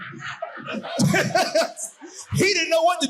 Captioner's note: audience laughing